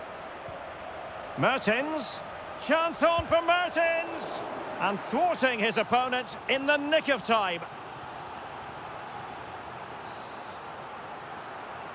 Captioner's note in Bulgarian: Аплодисменти